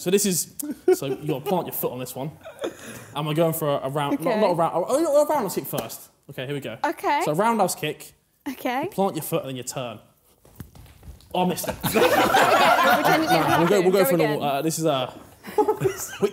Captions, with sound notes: So this is, so you apply your foot on this one. I'm gonna go for a round- - Okay. - Not a round, or you know, or probably round-house kick first. Okay, here we go. - Okay. - So round-house kick, you plant your foot and then you turn. - I missed it. (laughing) - Go again. - This is a...